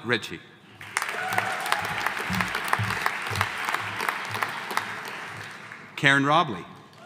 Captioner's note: audience applauding; audience cheering